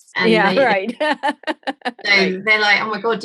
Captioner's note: laughing